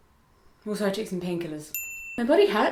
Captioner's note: bell dings